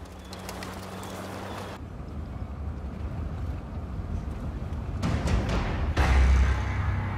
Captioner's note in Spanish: Ruido de vehículos